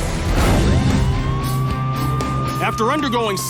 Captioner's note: siren wails